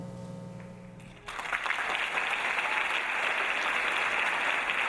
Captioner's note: audience applauding